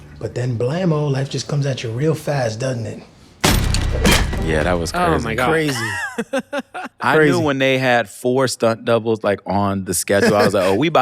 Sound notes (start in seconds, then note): 3.4 gunshot